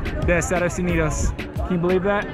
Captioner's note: speaking Spanish